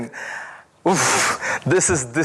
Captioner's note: sighs